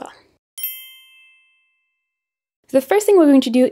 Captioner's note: gentle chime jingling